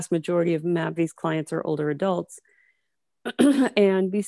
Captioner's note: clears throat